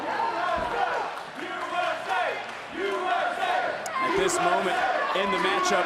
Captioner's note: crowd chants "usa"